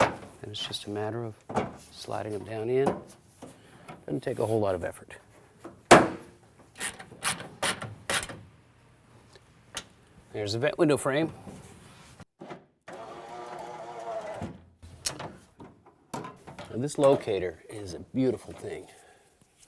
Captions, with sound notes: Then it's just a matter of sliding it down in, doesn't take a whole lot of effort. [Ratcheting] There's a vent window frame. [Window motor sound] And this locator is a beautiful thing.